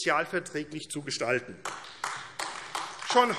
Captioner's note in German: Beifall AfD